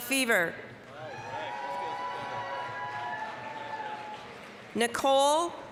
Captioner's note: applause, cheering